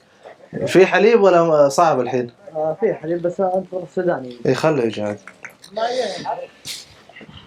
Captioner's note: Arabic